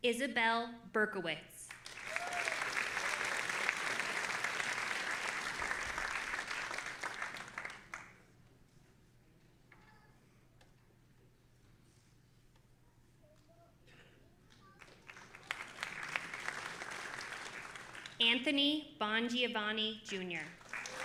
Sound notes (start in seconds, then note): 1.8 audience applauding and cheering